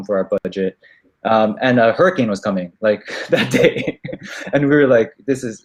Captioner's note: laughs